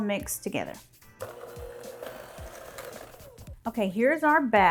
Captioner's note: mixer whirring